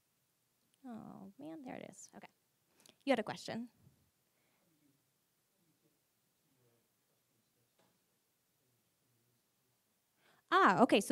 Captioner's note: silence